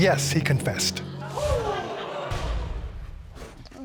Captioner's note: audience gasping